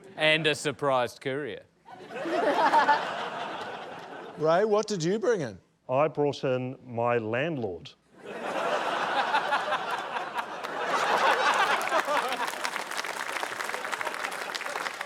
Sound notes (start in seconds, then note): 1.8 laughter; 8.1 laughter; 10.9 laughter, applause